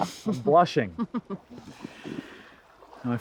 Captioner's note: Summer chuckles